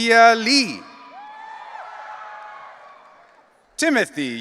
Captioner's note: audience cheering